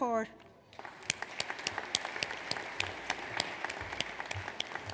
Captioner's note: audience applauds